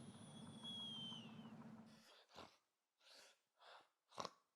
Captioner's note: snoring